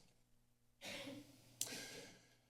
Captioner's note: coughs